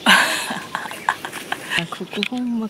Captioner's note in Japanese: 笑い